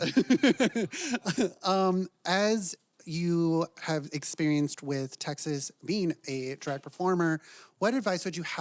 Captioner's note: laugh